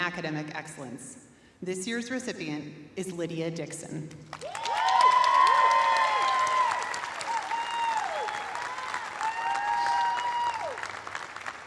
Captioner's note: cheers and applause